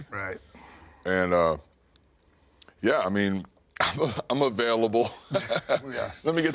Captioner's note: laughs